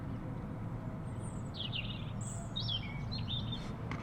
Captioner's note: birds chirping